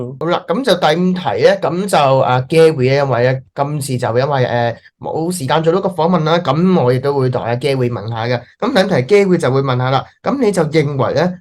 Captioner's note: Speaking in Cantonese